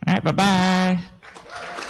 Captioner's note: applause